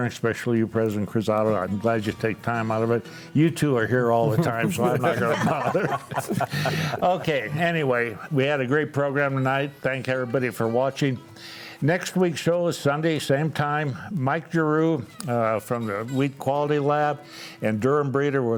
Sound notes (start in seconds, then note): 4.2 all laughing